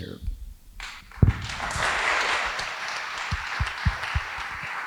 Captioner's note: audience applauding